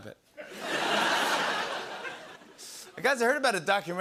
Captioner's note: laughter